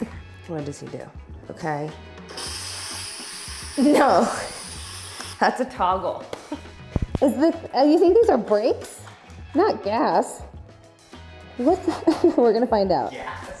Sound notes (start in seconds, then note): 2.3 machine hissing